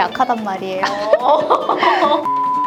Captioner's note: laughter